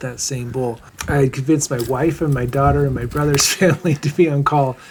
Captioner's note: laughing